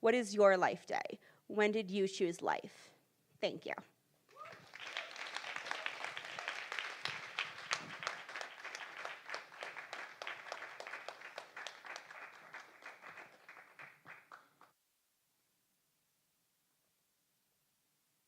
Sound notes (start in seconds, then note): 9.1 applause